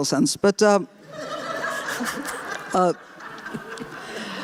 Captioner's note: laughter